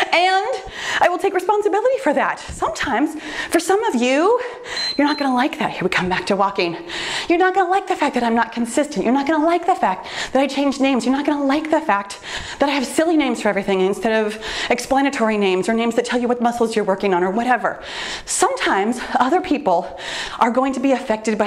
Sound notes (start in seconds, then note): 4.6 timer beeps